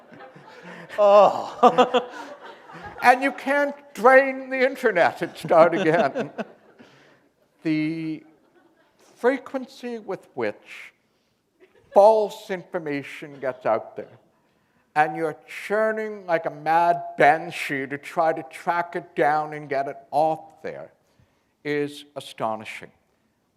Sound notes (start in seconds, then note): 5.9 chuckle